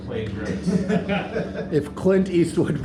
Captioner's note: laughter